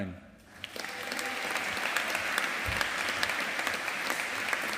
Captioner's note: audience applauding